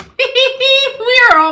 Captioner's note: laughs